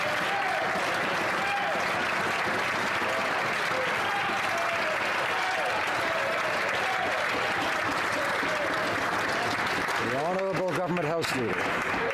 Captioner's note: some Applause